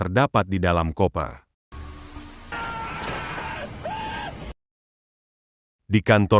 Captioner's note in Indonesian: berteriak